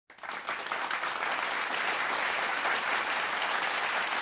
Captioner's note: audience applauds